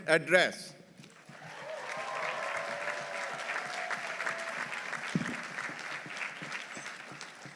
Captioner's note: audience applauding; audience cheering